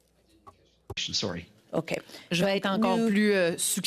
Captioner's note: speaking French